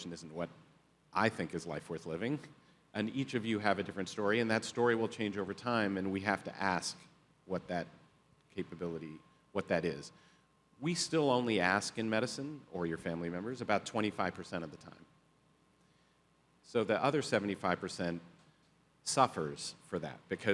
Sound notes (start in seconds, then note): none